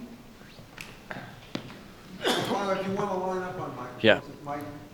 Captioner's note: coughing drowns out speaker